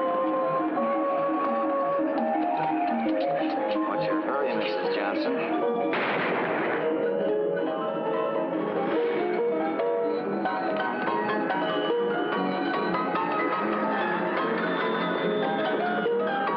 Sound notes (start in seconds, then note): 5.9 gunshot; 7.3 carnival music